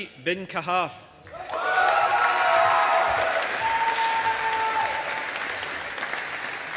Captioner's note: audience applauding